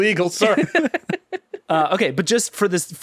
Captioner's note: laughing